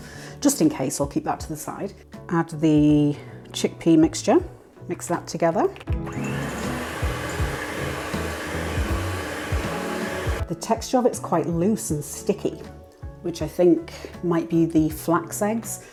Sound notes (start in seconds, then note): 6.0 mixer hum